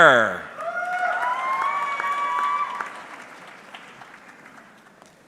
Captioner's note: audience cheering